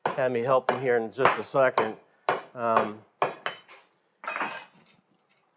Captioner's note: metal clanks